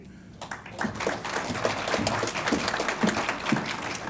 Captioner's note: audience applauds